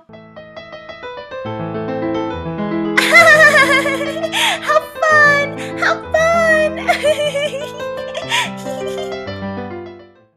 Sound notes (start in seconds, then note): 0.2 continues playing piano; 6.2 laughs